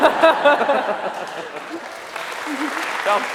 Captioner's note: laughter